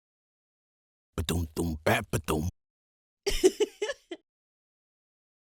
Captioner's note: happy giggle